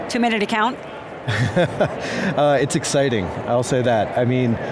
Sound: laughs

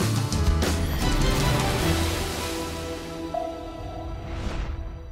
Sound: powerful whooshing

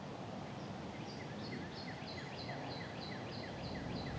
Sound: birds chirping

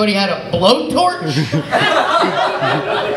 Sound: laughter

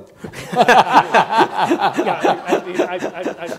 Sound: laughing

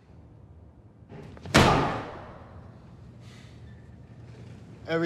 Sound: slams

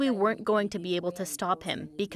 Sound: speaking French

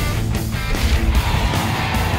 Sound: scream; explosion; cheers

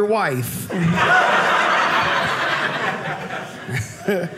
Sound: audience laughing

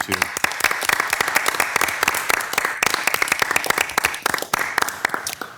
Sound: everyone applauding

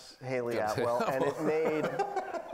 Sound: laughing

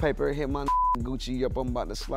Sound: beep

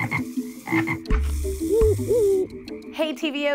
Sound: animal sounds

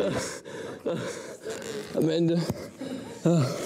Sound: gasps

